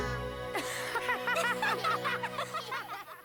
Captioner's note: everybody laughs